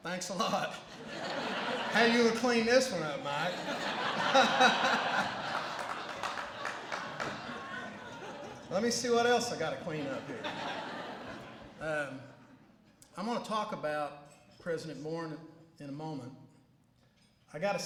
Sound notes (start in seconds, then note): 4.1 laughter